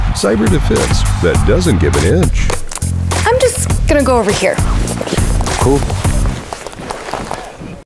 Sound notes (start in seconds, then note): 6.0 footsteps echoing